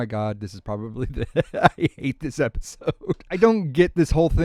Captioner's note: laughter